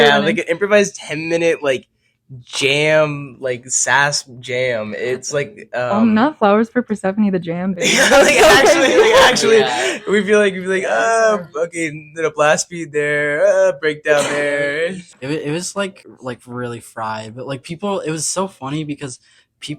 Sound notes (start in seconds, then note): 7.8 all laughing & agreeing